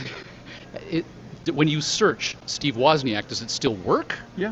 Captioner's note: laughing